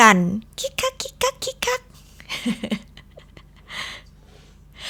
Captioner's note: giggling sound